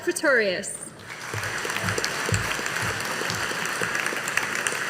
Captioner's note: audience applauding